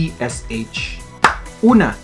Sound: clap!

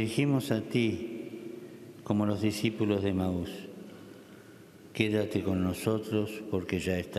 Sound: speaking Alternate Language

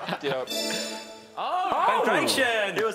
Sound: chiming

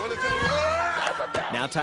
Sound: boys screaming

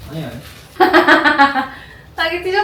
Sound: laughing hard🤣

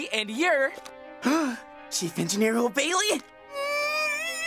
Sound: gasp

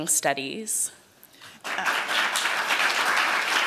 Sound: applause

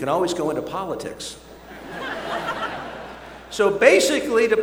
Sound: laughter

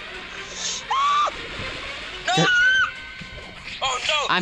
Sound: inhael

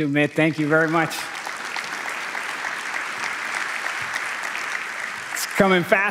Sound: applause

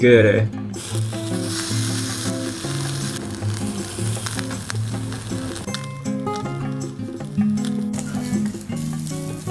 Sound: sizzling

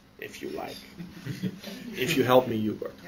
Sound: laughter

